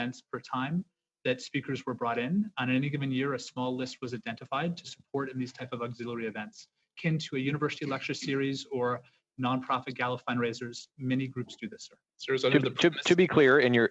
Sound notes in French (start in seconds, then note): 3.5 voix de l'interprète